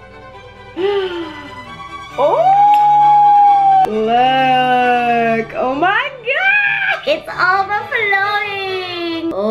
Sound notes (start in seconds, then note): 0.7 gasps